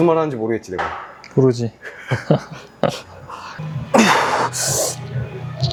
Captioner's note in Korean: 웃음